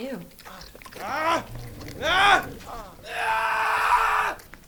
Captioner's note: man screaming